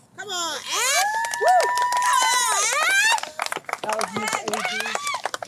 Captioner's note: audience cheers and applauds